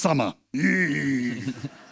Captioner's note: grunts